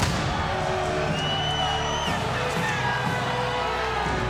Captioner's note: crowd cheering